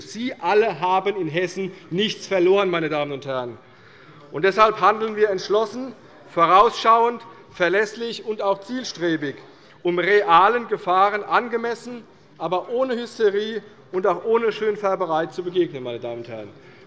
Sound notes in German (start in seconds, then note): none